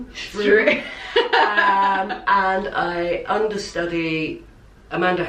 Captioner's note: laughter